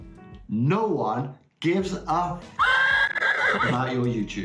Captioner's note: horse neigh